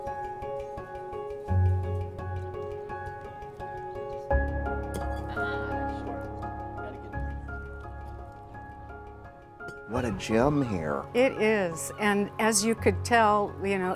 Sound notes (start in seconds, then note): 4.7 clank of horseshoe hitting stake